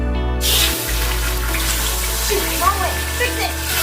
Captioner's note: meat sizzling